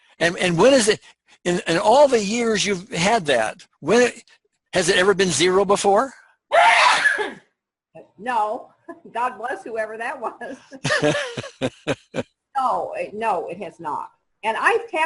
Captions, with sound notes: - Oh, okay. And, what is it, in all the years you've had that, has it ever been zero before? - (sneezing) God bless whoever that was. No, no, it has not and I've tapped on it before,